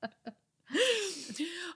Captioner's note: laughing